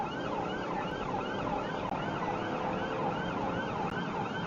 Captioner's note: engine accelerates